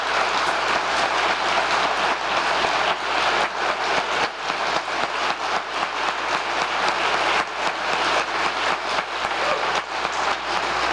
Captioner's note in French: applause